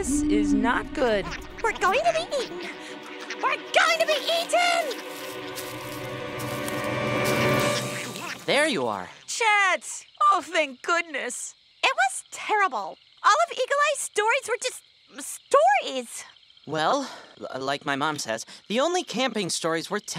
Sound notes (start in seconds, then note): 5.4 footsteps